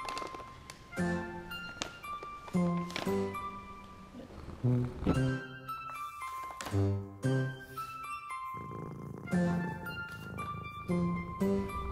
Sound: purring

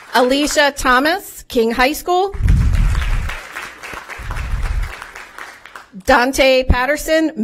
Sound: applause; applause; applause

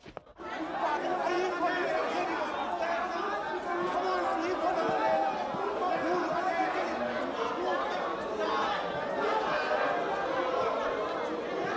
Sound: indistinct shouting

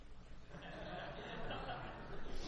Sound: laughter

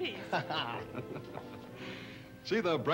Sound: man laughs

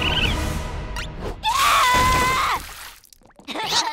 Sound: screaming; laughing

